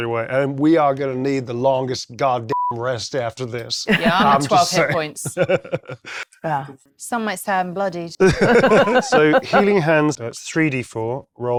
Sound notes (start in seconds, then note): 8.2 laughing